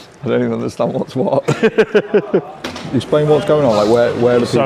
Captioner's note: laughs